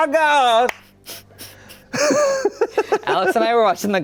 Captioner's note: everyone laughs